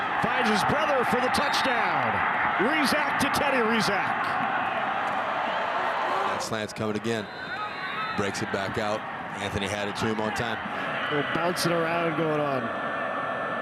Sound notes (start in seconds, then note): 0.0 referee blows whistle; 2.7 fans cheer; 7.2 referee blows whistle